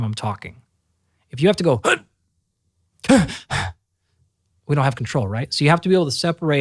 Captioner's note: gasping